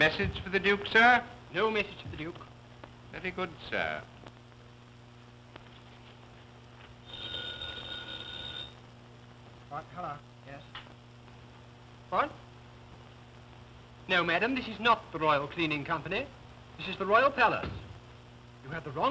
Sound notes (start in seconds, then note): 7.0 telephone ringing